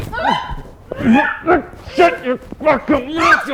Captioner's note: Jessie screams